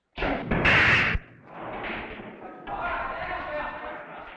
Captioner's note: billiard balls clacking